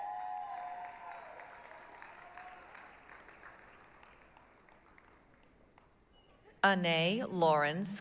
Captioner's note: applause, cheering